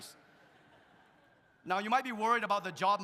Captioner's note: audience laughs